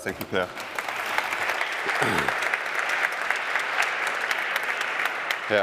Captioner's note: applause